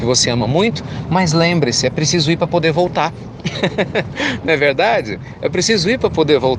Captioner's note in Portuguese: Risos